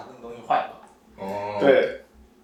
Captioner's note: nonverbal grunt as interjection